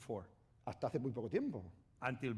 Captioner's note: speaking spanish